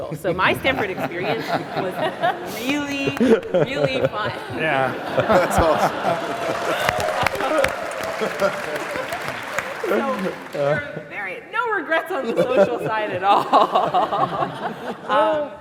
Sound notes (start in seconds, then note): 4.6 laughter; 7.4 applause